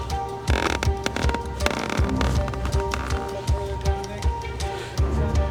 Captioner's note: rope screeching